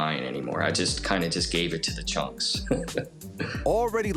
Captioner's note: chuckles